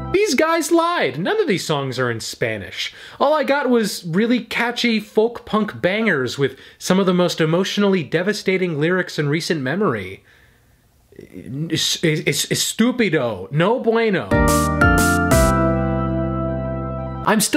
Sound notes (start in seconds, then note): 12.4 in foreign language; 14.3 upbeat music plays